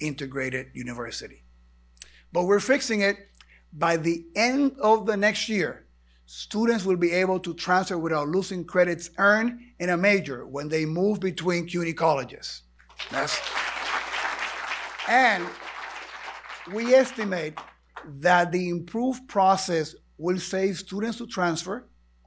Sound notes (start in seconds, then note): 14.9 applause